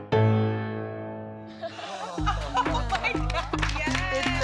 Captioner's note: laughing